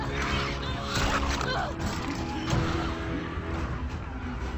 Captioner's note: Ellie groans